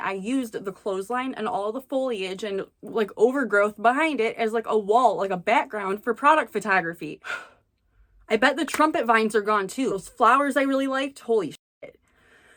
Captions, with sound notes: I used the clothesline, and all the foliage and overgrowth behind it as, like, a wall, like, a background for product photography. *gasps* I bet the trumpet vines are gone, too... those flowers I really like, holy ****...